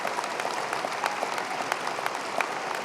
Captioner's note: applause